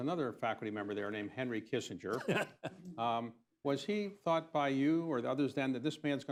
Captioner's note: laughter